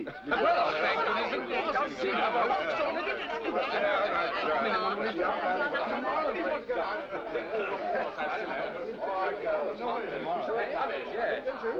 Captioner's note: laughter & chatter